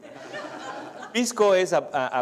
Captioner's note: laughter